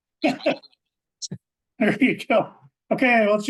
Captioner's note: laughing